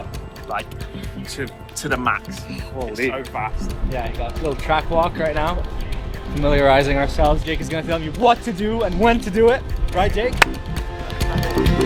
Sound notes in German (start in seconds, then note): 10.4 Klatsch Geräusch